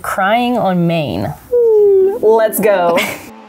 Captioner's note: fake crying